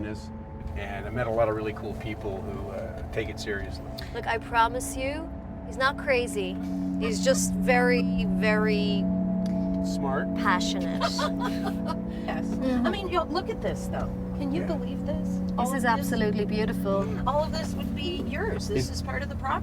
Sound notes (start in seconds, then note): 10.8 laughing